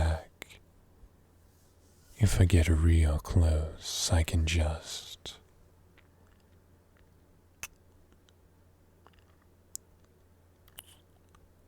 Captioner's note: kiss